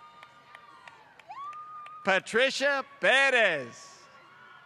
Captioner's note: applause; applause